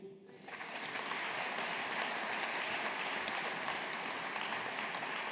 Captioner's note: audience applauding